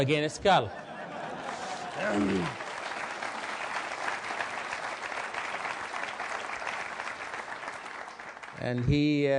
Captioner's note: applause